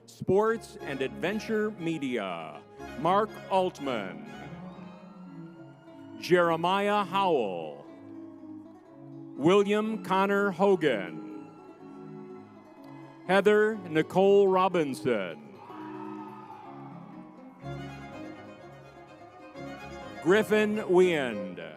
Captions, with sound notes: Sports and Adventure Media. Mark Altman, Jeremiah Howell, William Conor Hogan. (crowd cheering) (lively music) Heather Nicole Robinson. (crowd cheering) (lively music) Griffin Weand.